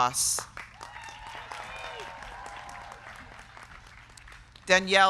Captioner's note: crowd clapping; crowd cheering